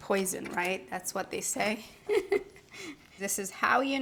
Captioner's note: giggles